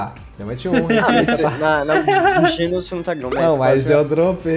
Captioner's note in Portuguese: risos